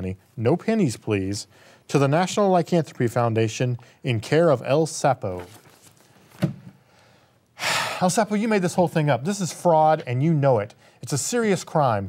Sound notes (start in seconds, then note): 7.6 sigh